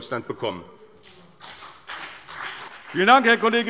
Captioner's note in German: Beifall BÜNDNIS 90/DIE GRÜNEN und CDU